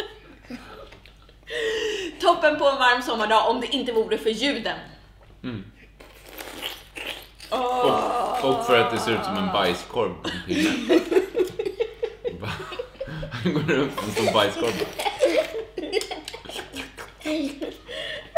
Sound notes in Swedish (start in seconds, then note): 6.0 sörplande